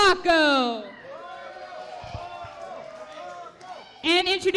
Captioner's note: crowd cheers